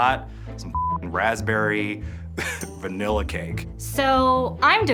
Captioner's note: beep